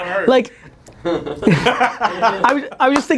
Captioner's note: laughing